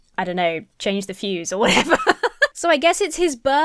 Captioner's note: laughs